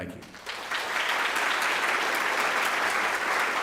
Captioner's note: clapping